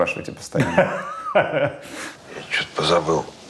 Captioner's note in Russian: Меньшиков хохочет